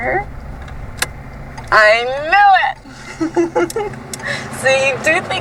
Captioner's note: giggles